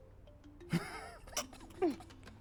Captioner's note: everyone laughs